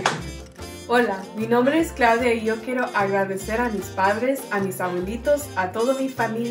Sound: speaks in foreign language

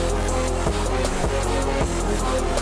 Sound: none

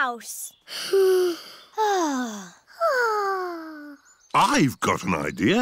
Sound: all sigh

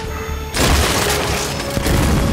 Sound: gunshots

